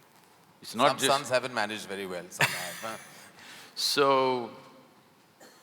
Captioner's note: both laugh